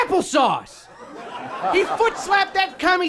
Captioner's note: people laughing